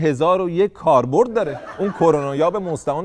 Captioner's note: laughter